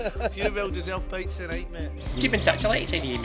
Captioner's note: players laughing; chuckles